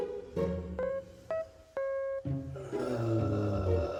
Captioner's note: sniffling